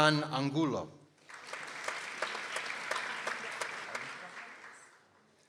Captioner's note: people applauding